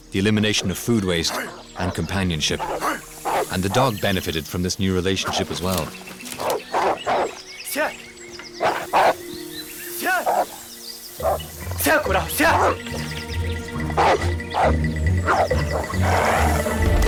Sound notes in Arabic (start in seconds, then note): 11.8 الصوت المنطوق البدوي